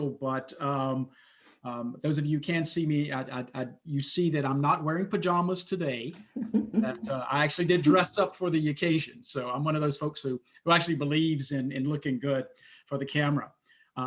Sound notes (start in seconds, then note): 6.3 laughter